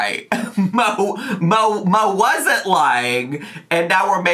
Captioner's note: chuckling